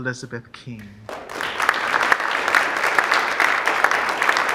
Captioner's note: audience applauding